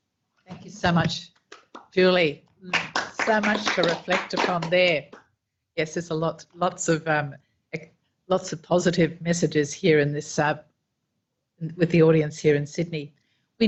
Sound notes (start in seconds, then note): 2.7 audience applauding